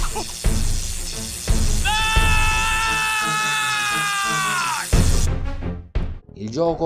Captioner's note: electric discharge and groan of pain; cry of pain